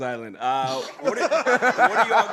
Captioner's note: laughter